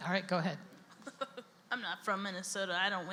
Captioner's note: laughs; voiceover